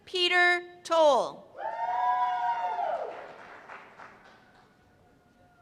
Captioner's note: cheers and applause